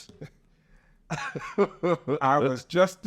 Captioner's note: laughing